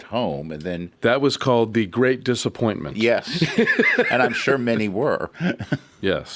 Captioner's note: laughs